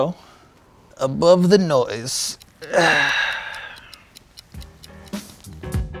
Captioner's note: ticking; sighing; mellow dance music